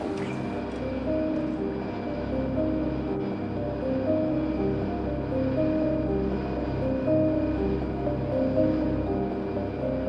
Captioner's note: airplane turbine and eerie music